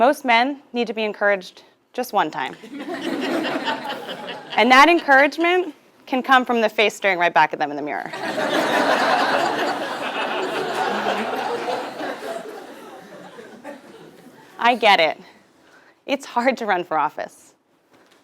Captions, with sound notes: Most men need to be encouraged just one time. >> [LAUGH] >> And that encouragement can come from the face staring back at them in the mirror. [LAUGH] >> I get it. It's hard to run for office.